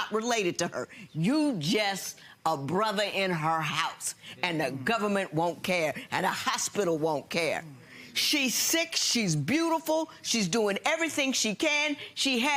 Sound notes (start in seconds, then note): none